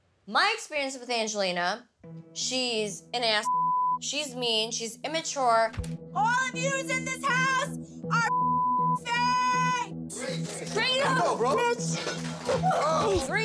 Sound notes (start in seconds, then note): 3.4 beep; 6.0 shouting; 8.2 beep